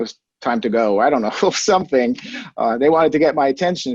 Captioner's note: chuckles